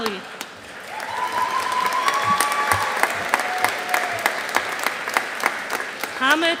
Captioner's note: audience applauding